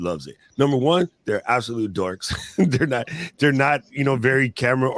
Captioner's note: laughs